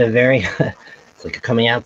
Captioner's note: chuckles